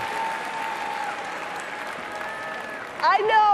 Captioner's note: cheering and applause